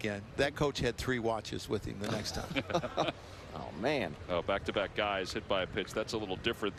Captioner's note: laughter